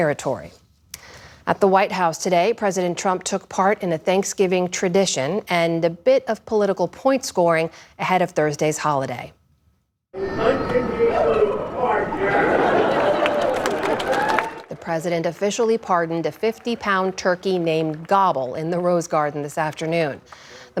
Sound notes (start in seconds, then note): 14.7 cheering